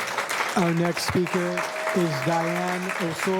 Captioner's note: applause